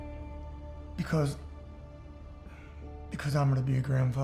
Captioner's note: says emotionally